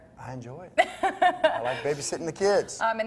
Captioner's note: laughs